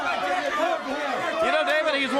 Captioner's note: crowd chatter